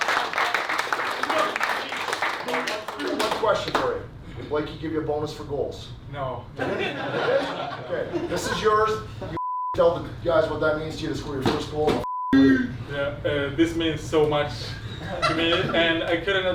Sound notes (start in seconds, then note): 0.0 hands clapping; 6.6 players laughing; 9.4 beep; 12.0 beep; 14.9 player laughing